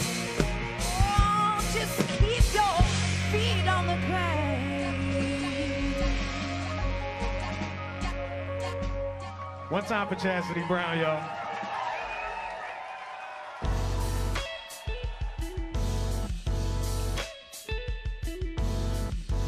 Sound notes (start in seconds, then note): 11.3 cheers, whistles, & applause